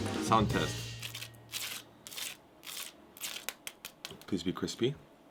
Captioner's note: crispy sound